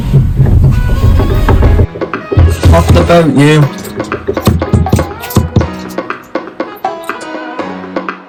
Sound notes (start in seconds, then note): 0.0 tapping sounds; 3.6 tapping sounds